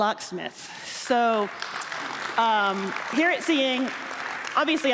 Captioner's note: applause